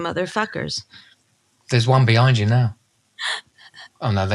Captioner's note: gasps hyperbolically